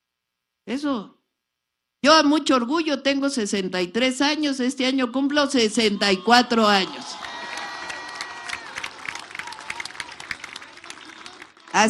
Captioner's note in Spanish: aplausos